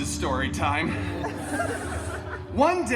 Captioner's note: guests laughing